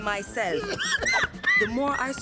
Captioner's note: coughing